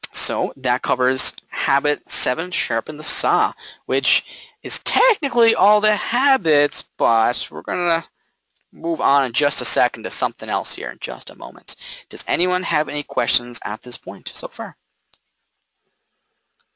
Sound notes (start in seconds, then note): none